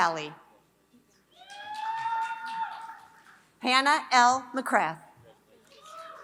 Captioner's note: applause; applause; applause